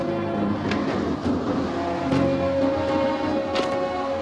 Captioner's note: wind howling